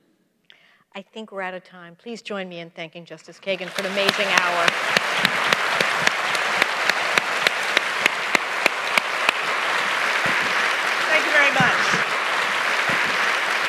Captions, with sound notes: - I think we're out of time. Please join me in thanking Justice Kagan for an amazing hour. [applause] - Thank you very much.